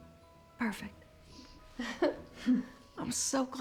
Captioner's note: chuckles